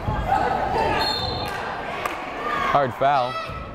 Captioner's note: whistle blowing